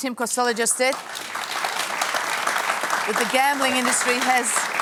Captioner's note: applause